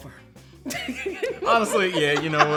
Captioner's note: laughs